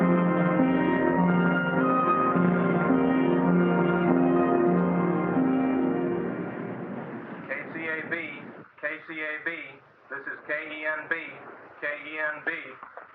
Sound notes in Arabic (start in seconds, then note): 7.5 راديو